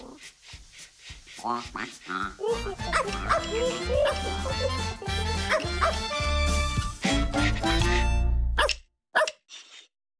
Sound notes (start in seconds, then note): 4.0 whimsical music; 9.1 barking